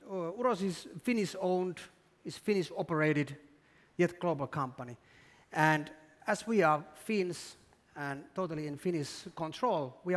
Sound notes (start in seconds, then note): none